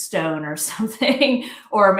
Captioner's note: chuckles